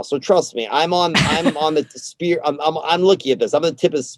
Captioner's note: laughs